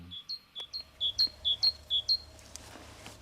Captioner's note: birds calling